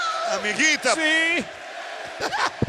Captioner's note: laugh